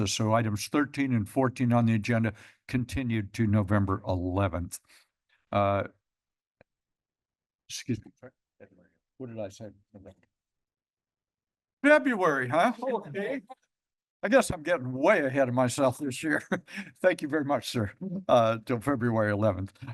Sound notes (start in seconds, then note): 13.4 laughter; 16.5 laughs